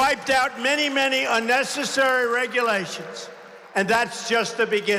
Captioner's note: applause